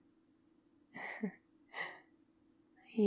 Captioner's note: laughs